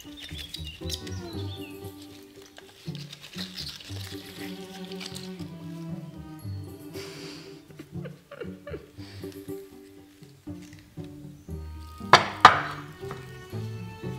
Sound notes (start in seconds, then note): 7.0 laughs; 11.0 curious music